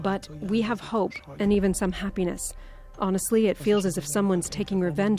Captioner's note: speaking alternate language